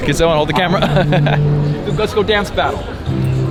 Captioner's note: laughs